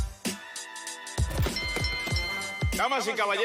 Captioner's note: bells